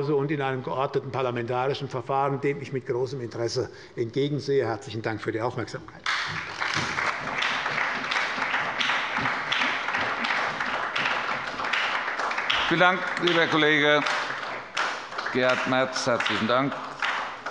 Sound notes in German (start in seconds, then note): 6.0 Beifall bei der SPD